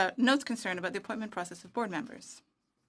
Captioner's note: speaking French